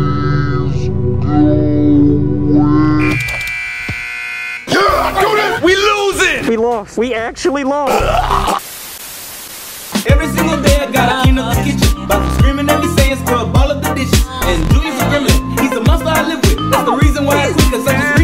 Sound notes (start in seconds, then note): 3.0 buzzer; 7.9 choking; 7.9 snarling; 8.0 static